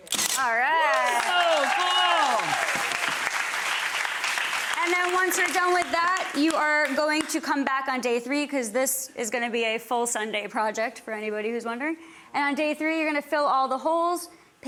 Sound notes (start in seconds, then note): 2.8 audience applauding